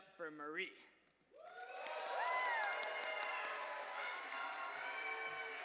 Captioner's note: cheers and applause